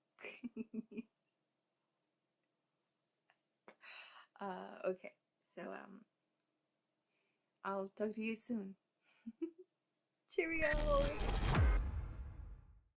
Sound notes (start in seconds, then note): 0.1 laughter and giggles; 9.3 giggles; 10.5 computer Glitch Sounds